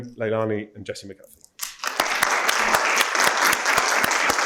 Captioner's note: applause